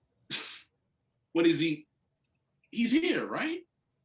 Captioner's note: laughs